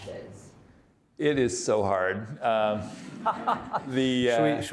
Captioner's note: audience laughing